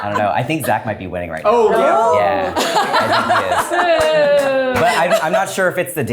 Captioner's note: everyone laughs